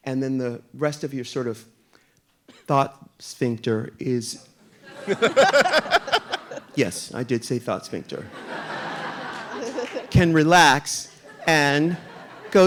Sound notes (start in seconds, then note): 4.8 audience laughing; 8.2 audience laughing